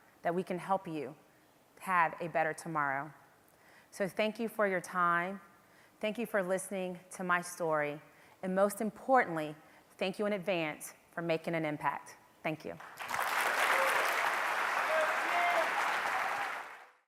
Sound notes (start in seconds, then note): 12.8 audience applause